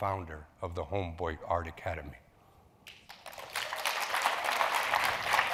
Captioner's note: audience claps